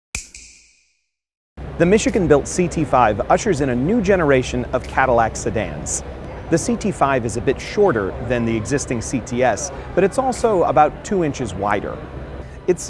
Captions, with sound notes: [SNAP] The Michigan built CT5, ushers in a new generation of Cadillac sedans. The CT5 is a bit shorter than the existing CTS, but it's also about two inches wider.